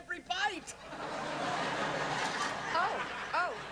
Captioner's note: laughter